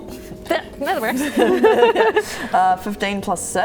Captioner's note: laughing